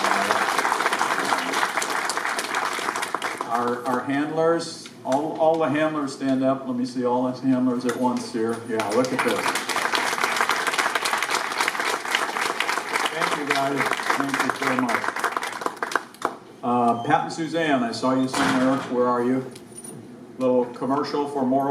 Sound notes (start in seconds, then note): 0.0 applause; 8.7 applause